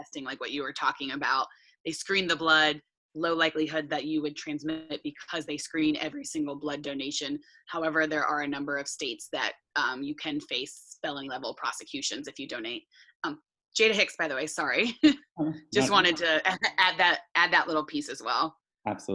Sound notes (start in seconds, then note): 15.8 chuckles